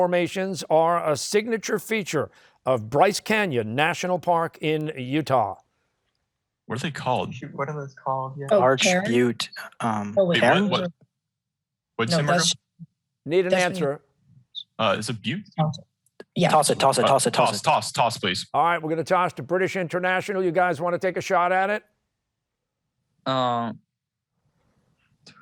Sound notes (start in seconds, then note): 10.2 overlapping chatter